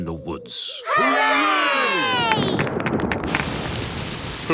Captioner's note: thunder